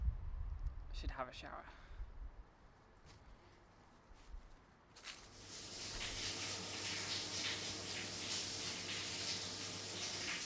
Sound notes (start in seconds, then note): 4.9 grass and leaves crunching; 5.0 water running